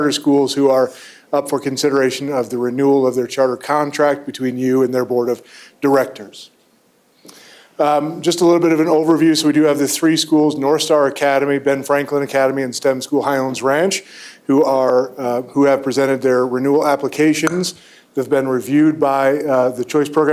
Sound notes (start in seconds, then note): none